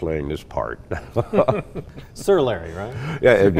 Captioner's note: laughing